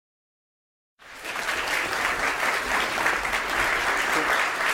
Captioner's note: applause